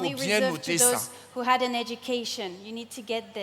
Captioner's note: continues in French